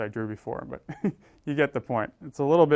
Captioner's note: laugh